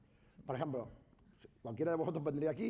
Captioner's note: speaking spanish